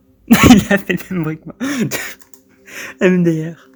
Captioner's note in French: haha